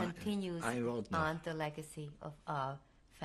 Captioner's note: speaking yiddish